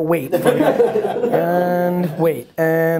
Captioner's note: laughing